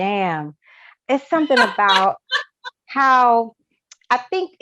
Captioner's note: laughs